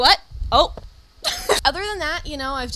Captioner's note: laughs